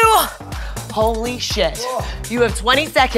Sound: moaning

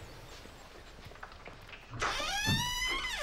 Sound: door slams

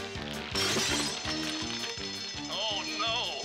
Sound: bell ringing

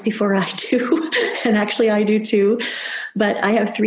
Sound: laughs

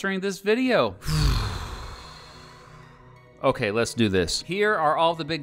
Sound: taking a deep breath

